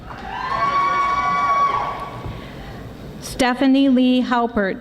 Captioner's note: audience applauding